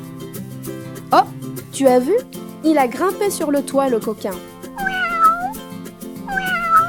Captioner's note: the cat meows